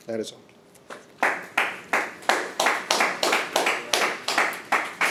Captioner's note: audience applauding